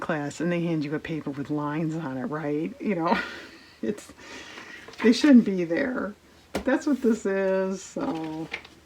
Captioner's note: laughs